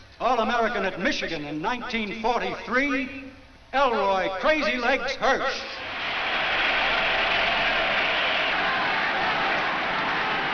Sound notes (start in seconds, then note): 5.7 crowd cheers